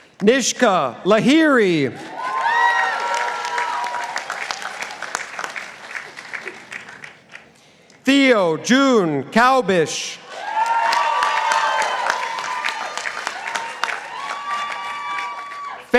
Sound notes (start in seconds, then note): 2.0 participants applauding; 10.4 participants applauding